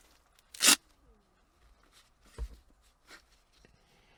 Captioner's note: gloves rustling